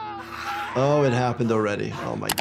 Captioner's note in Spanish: Frank gritando